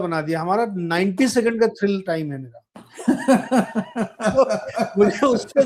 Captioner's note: laughter